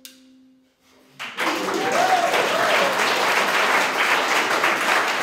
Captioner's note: cheering and applause